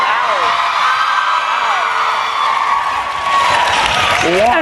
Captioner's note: cheering and Applause